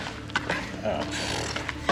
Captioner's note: laughs